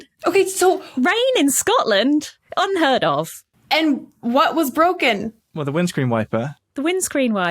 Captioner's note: none